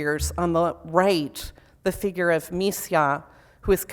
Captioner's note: foreign language